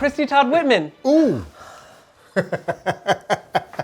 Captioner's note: laughs